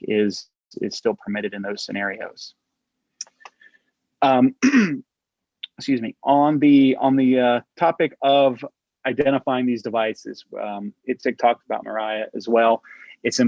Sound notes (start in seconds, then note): 4.4 clears throat